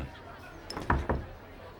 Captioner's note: knocking